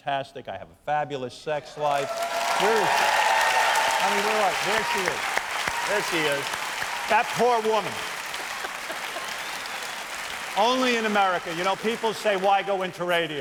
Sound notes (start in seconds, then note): 5.2 cheers and applause